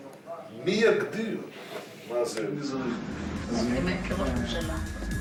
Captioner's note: Hebrew spoken audio